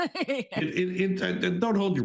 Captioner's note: laughs